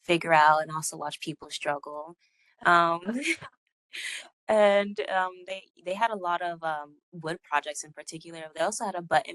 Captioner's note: laughing